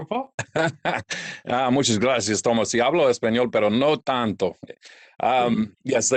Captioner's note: speaks in Spanish